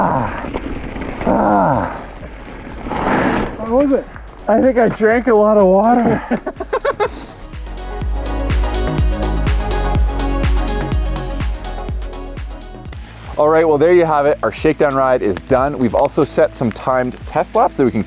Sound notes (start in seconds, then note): 5.8 laughing